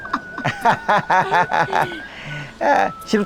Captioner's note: both laughing